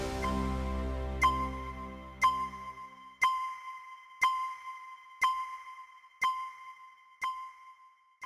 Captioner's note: countdown beeps